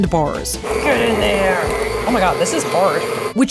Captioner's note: mixer whirling